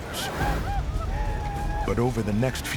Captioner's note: war cries